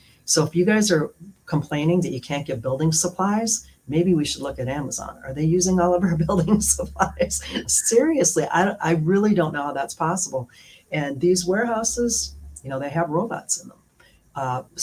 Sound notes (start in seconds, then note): 7.4 laughter